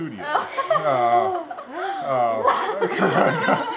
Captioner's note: laughter and sighs